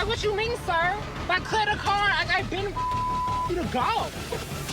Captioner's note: beep